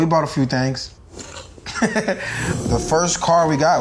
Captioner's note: Shaquem laughs